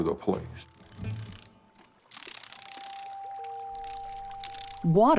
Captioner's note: insect fluttering